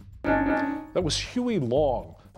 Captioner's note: bell dings